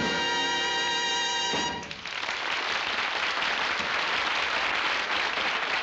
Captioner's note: applause